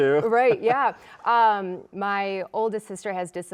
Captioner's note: chuckling